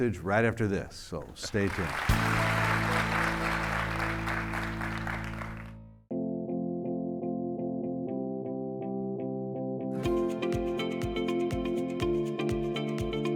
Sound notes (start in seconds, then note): 1.2 audience clapping; 6.2 upbeat music